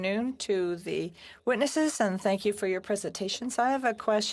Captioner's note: speaking French